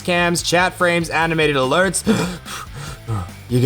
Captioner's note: heavy breathing like if you ran out of air